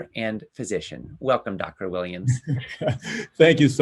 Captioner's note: laugh